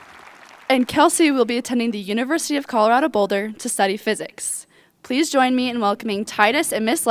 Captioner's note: cheerpland apause